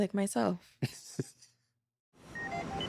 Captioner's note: chuckles